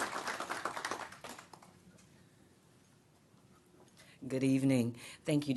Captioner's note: clapping